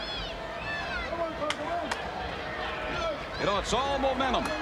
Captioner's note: audience shouting